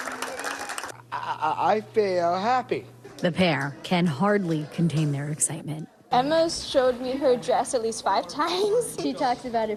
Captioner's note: cheers and applause